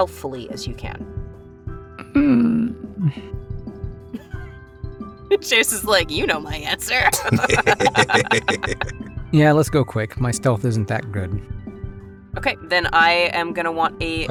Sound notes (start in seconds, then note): 1.4 HANS groans; 7.0 laugh